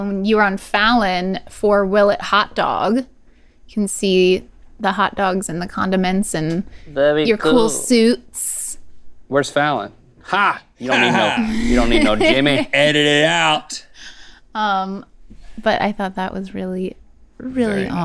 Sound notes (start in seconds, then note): 10.8 Rhett laughs